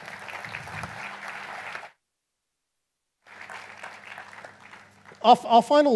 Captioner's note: applause